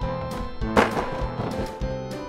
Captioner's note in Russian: Тук-тук-тук